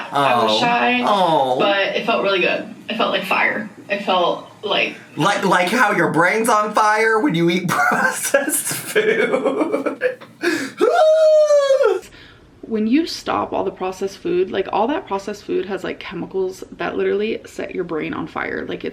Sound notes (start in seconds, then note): 7.7 laughs